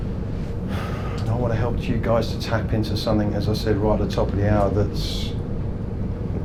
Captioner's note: sighs